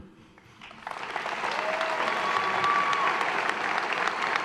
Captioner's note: applause